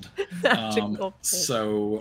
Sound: laughs

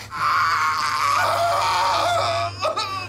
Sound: screaming

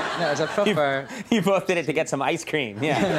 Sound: everyone laughing

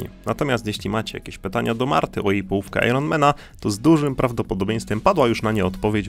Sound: none

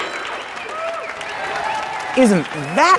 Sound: shouting and applause

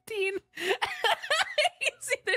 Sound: laughing; laughter

